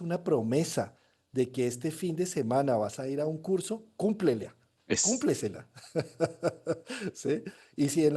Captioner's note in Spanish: risas